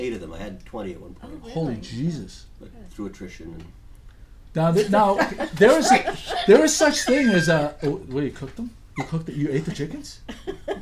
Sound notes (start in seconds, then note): 0.0 voiceover; 1.6 voiceover; 4.8 laughing; 6.7 voiceover; 10.7 voiceover